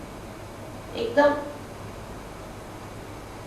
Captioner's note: hindi